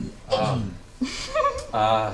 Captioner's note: laughs